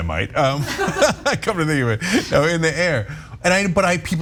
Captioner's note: laugh